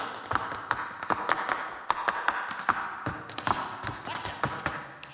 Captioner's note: shoes clacking